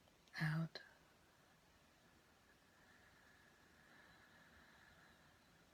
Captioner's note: exhaling